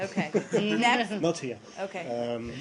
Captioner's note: laughter